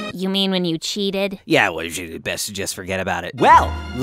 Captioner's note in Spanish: murmurando